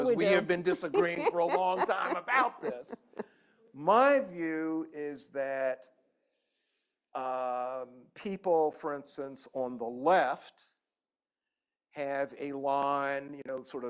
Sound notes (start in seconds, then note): 3.0 laughter